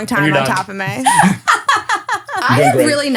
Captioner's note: laughing